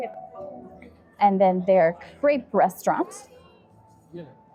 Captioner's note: crowd chattering